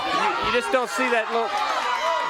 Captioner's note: crowd cheers